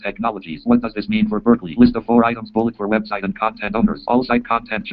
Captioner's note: JAWS speaking